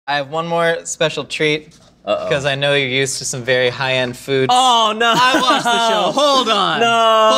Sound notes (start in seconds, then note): 5.0 laughing